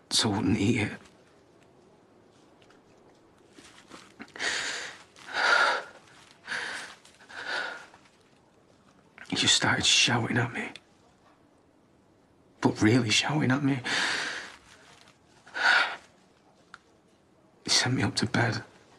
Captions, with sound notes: ...so I wouldn't eat it. *Aaron breathes shakily* He just started shouting at me. But REALLY shouting at me. He sent me up to bed.